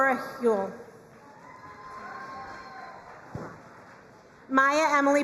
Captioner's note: crowd cheering and applauding